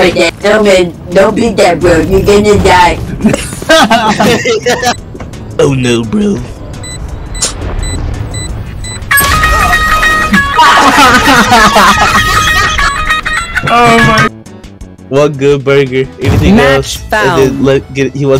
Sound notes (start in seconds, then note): 3.2 laughter; 10.2 everyone laughing